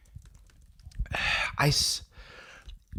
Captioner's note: sighs